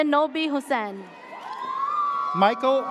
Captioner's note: audience cheers